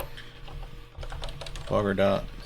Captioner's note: keyboard keys clanking